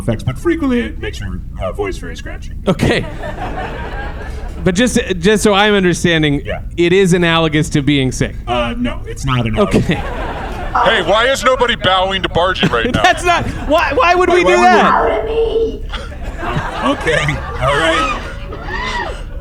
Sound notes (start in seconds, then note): 9.2 laughing; 12.0 exasperated; 17.5 sound of C-53's servos as everyone bows